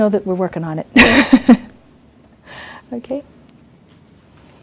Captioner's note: laughs